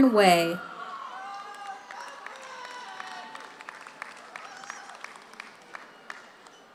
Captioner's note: audience cheers; audience applauds